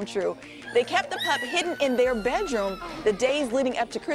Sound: screaming

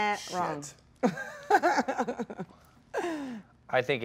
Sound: Gal laughs

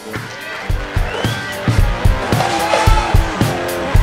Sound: audience cheers; upbeat music

